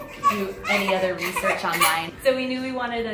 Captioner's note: baby cries